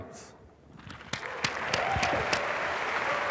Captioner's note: applause